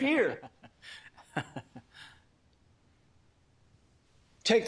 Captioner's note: men chuckling